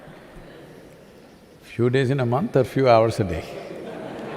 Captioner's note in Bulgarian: смях